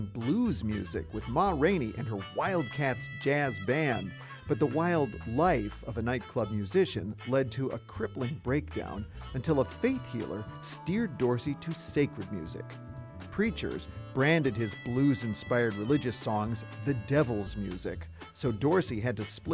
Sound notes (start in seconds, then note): none